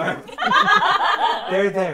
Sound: laughter

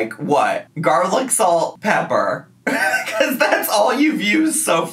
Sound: laughing

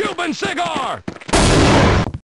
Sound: explosions

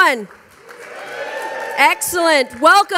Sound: audience cheering

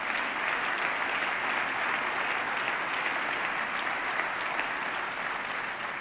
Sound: applause

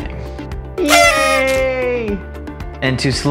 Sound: party horn

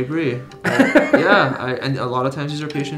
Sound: laughing

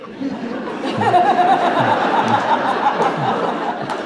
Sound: audience laughing

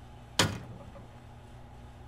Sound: soda can thumps in tray

